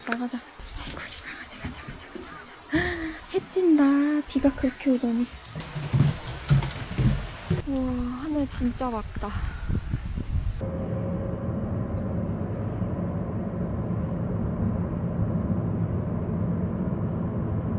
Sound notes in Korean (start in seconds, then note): 4.3 쿵쾅 쿵쾅